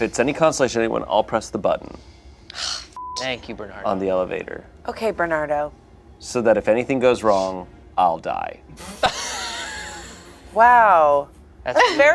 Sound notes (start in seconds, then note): 3.2 beeps; 8.8 laughs